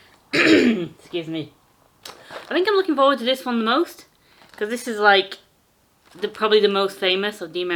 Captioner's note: clears throat